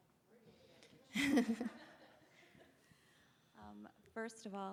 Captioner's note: all laughing